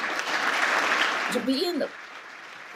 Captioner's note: applause